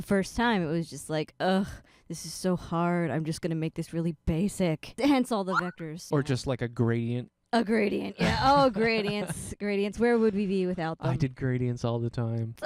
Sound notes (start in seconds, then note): 8.2 laughing